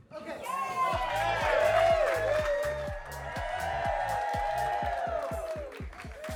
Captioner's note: attendees cheer and clap; upbeat music